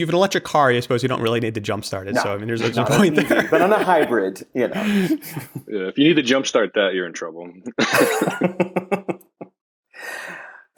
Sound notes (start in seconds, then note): 7.7 laughter